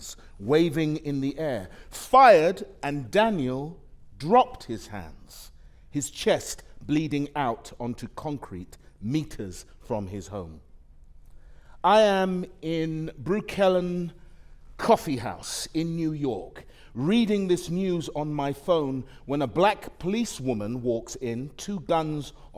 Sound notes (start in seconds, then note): none